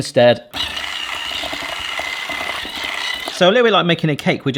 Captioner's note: whisk whirring